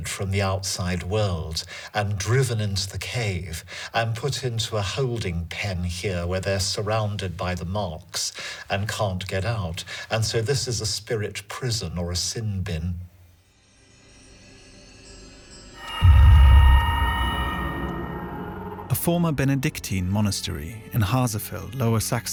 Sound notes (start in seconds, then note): 13.2 wind chimes; 15.7 eerie noises